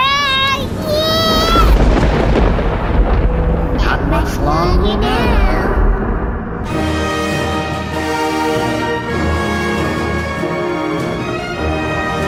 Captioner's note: Beano screams and energy crackles